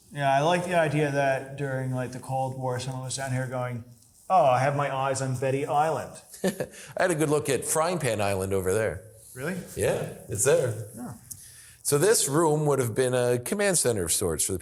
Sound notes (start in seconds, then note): 6.4 laughing